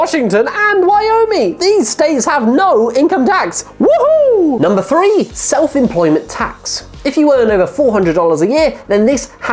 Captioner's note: woohoo